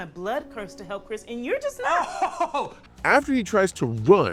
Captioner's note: laughs